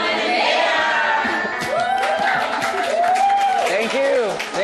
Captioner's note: everyone cheering